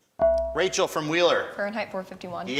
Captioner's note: buzzer chimes